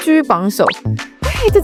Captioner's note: inhales